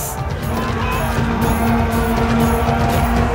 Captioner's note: soldiers screaming war cries